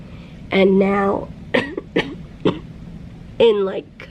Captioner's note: coughing